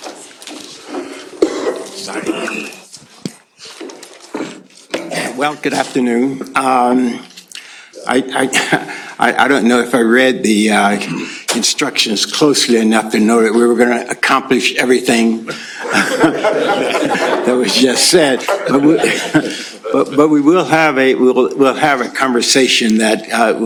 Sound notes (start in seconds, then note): 8.5 chuckles; 15.5 laughter